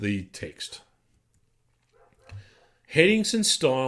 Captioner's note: dog barking